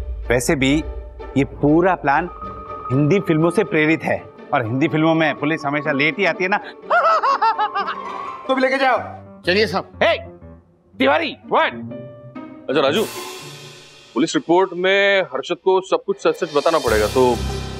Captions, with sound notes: Besides, the entire plan was inspired by Bollywood movies. Well, the police always show up late in them! [laughs] - Take him away too! - Come on, sir. Hey! Tiwari, what? Raju. Harshad will have to state the facts in the police report, so...